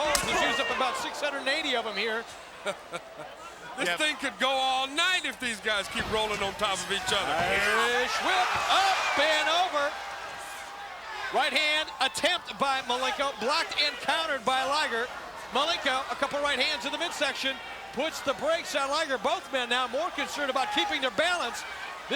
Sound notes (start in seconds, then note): 2.5 Steve laughing